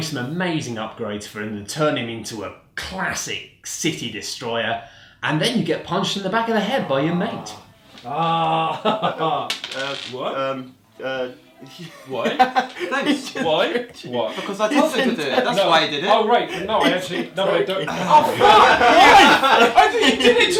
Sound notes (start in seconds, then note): 8.6 triumphant laughter; 10.1 confused sounds; 18.1 despondent moans